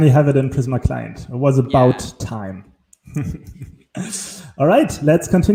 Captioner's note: chuckling